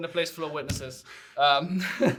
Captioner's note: chuckles